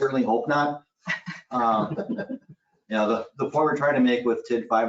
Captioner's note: people chuckling